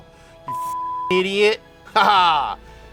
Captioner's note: beep